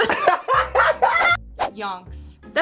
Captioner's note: laughing